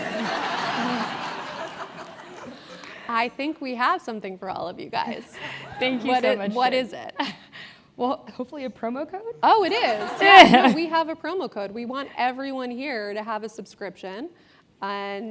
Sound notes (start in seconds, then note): 2.6 laugh; 9.7 laugh